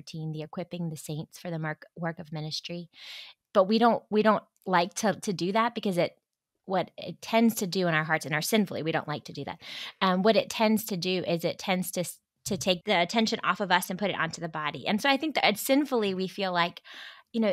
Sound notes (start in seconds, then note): none